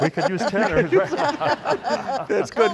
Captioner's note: laughing